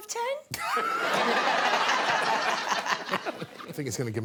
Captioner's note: laughter